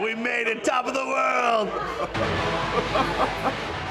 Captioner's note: laughing